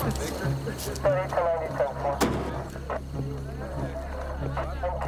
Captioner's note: radio crackles